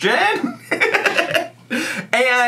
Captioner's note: laughs